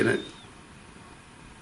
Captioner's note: high-pitched whistle